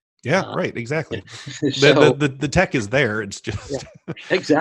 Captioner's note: laughs